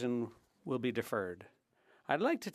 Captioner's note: speaking French